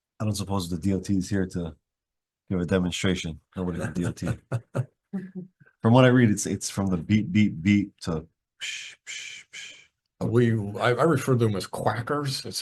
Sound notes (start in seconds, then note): 3.6 laughing